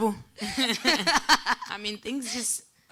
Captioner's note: laughing